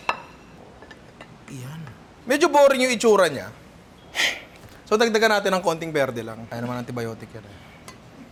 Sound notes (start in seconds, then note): 4.1 sighs